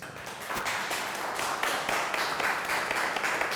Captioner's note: applause